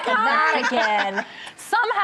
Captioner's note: laughing